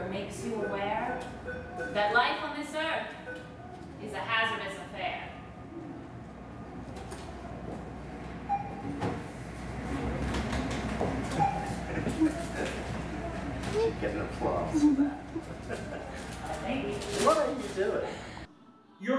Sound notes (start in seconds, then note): 11.7 man applauds, chuckles; 14.4 chuckles